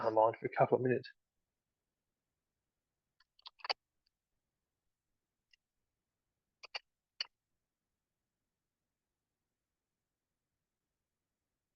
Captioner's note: silence